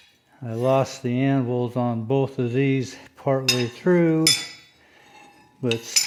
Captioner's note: hammers